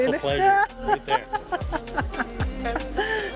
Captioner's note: laughs